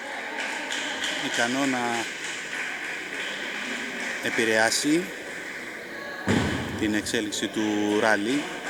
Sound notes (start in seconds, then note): 0.0 applause